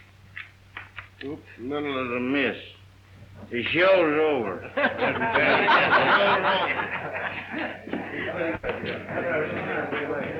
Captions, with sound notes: Oops, a little of the mist. The shows over. (group laughs)